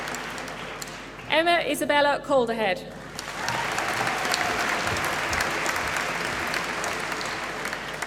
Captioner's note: applause